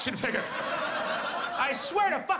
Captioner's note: audience laughs